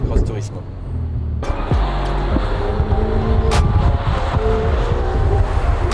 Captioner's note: engine roaring